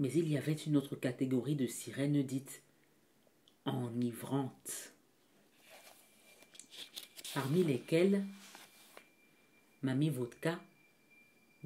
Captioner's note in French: Bruit de page qu'on tourne